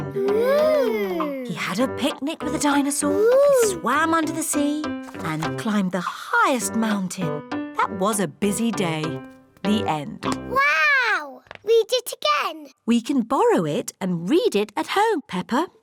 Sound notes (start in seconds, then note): none